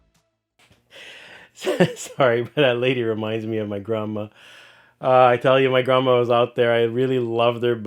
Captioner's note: laughing